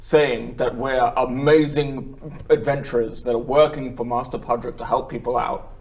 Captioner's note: none